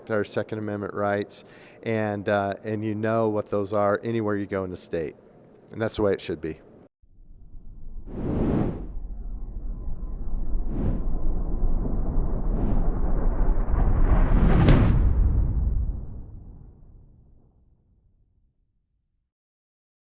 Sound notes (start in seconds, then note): 7.9 quiet whooshing; 14.9 loud whooshing